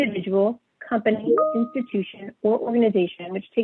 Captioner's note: chimes